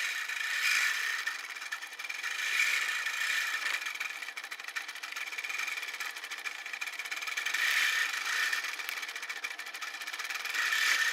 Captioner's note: machine whirring